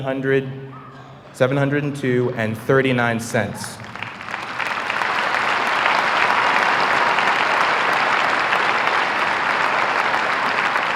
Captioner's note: applause